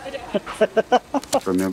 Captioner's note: laughing